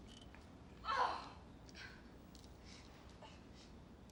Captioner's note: screams